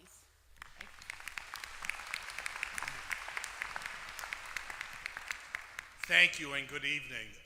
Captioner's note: applause